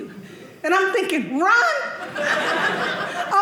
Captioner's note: audience laughing